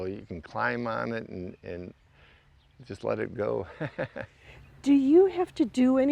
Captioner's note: laughs